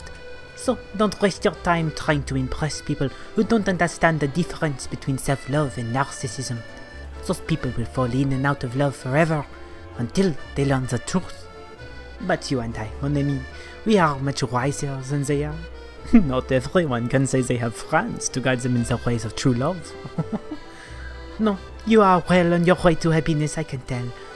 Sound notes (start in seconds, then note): 19.9 laughs